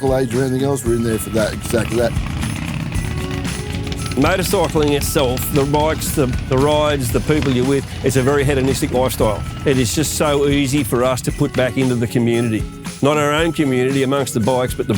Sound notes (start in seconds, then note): 2.7 engine revs; 2.7 upbeat music continues